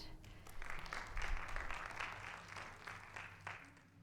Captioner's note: audience applauding